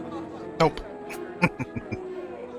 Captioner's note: chuckling